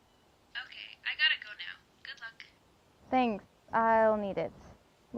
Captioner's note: none